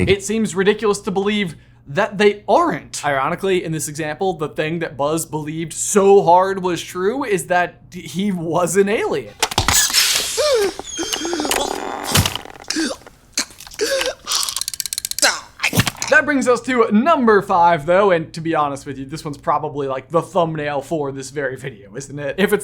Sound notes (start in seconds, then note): 9.3 plastic clanking; 10.6 Buzz gasping